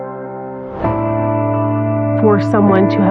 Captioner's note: air w whooshing